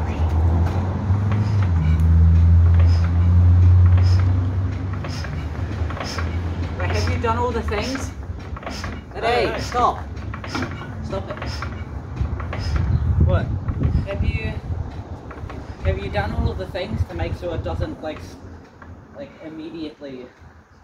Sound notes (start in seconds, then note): 7.0 "Music" of old engine cranking